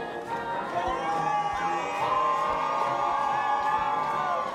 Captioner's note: screaming